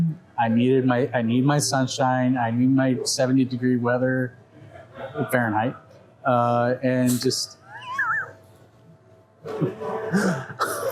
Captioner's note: laughs